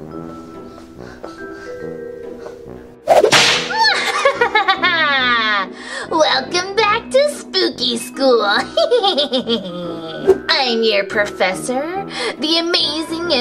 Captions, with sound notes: (creepy music) (laughs) - Welcome back to spooky school. (laughs) I'm your professor, the amazing